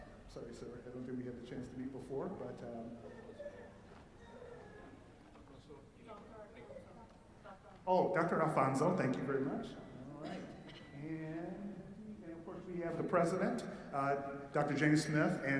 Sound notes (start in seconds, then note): 5.3 background chatter